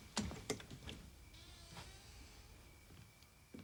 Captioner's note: door opens